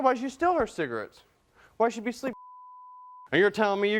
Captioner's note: beeping